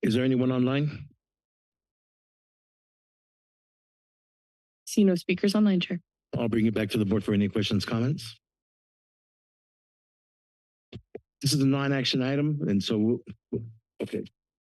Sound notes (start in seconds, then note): 1.3 silence